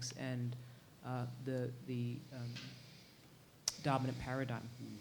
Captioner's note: none